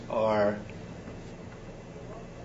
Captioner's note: none